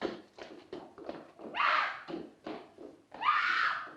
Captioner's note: screams